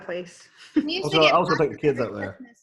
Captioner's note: laughs